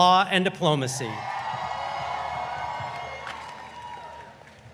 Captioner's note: audience cheering